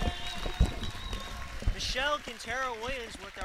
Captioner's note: audience claps